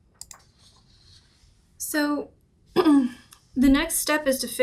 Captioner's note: clears throat